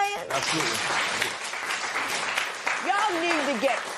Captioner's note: applause